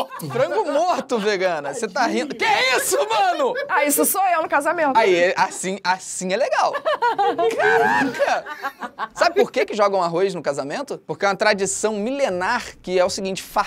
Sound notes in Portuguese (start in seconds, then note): 6.5 risadas